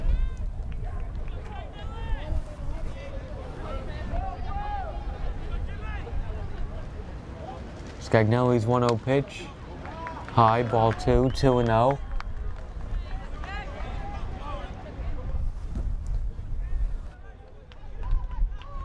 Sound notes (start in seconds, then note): 3.7 fans yelling; 10.1 bat cracks